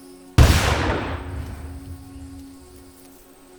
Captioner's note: gun fires